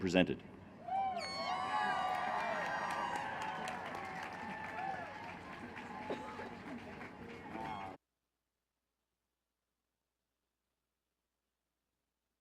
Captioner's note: cheering